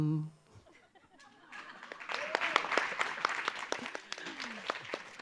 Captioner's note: audience applause